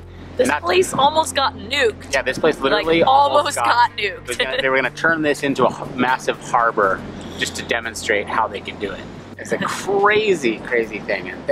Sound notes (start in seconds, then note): 4.3 laughing